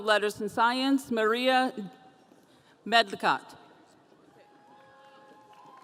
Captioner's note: audience cheering